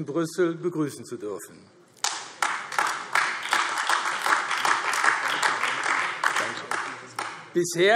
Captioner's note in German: Beifall AfD